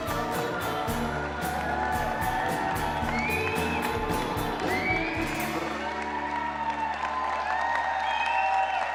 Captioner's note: audience applause